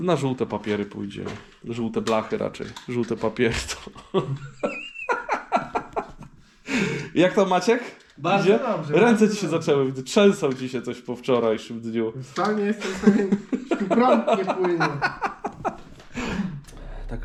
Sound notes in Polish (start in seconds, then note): 12.7 śmiech